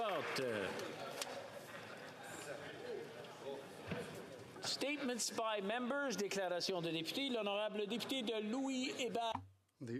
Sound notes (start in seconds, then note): 0.0 applause